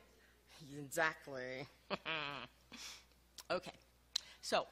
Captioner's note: laughs